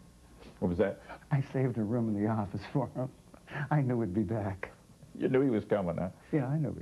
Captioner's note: laughs